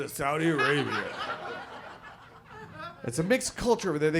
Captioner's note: audience laughs